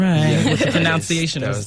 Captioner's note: interviewer laughs